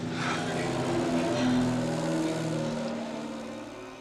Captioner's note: plane whirring